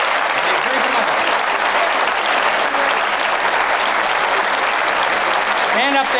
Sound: applause

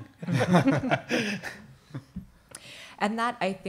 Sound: laughing

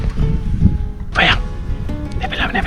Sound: whisper

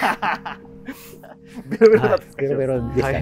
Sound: laughing

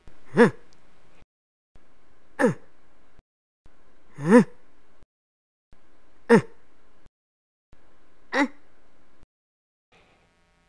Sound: grunting

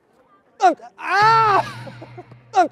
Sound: screaming

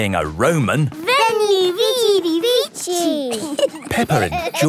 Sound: laughing

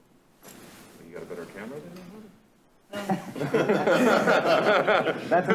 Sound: laughter

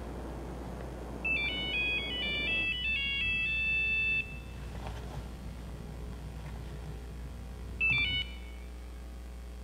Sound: cell phone rings

